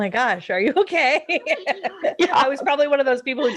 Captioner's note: laughing